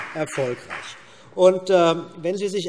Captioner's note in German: Beifall CDU und BÜNDNIS 90/DIE GRÜNEN